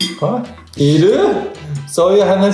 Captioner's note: laughs